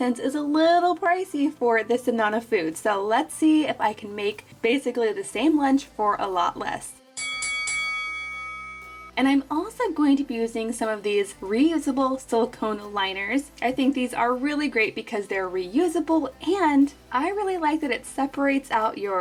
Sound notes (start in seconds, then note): 7.1 bell dinging